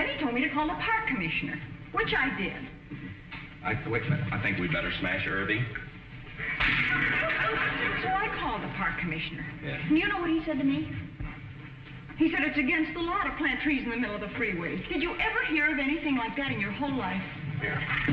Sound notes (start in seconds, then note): 6.3 audience chuckling; 6.5 cracking